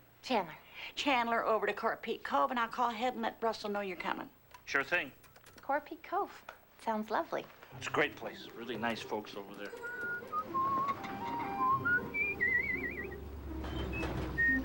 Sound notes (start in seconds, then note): 9.4 whistling